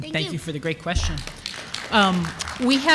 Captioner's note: applause